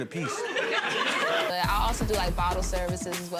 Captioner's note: gallery laughs